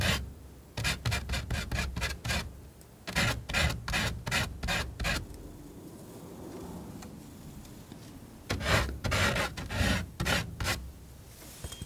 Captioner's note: scratching